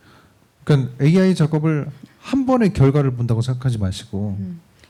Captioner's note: speaking korean